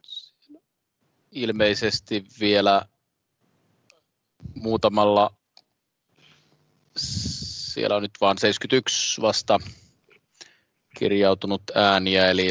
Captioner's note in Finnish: nuijan kopautus